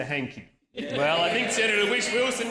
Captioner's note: laughter